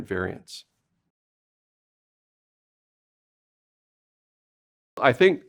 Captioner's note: silence